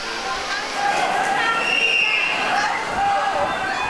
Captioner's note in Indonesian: suara keributan